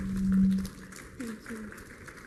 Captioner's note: applause